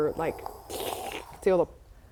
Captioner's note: slurp